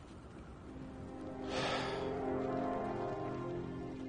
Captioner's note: sighs